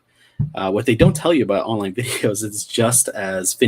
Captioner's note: laughs